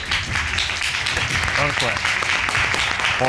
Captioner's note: all applauding